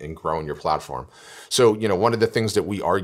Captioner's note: breath